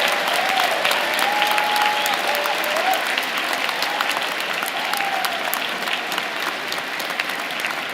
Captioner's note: applause